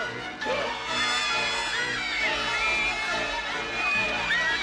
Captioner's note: screaming